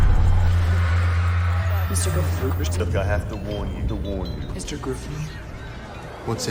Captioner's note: echoing